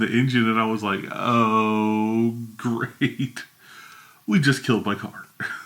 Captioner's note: laughs; laughs